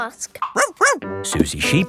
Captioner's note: barks